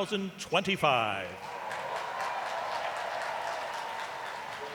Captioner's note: cheering, applause